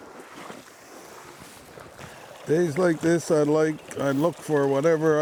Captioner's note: water gurgling